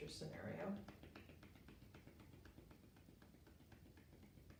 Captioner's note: gentle tapping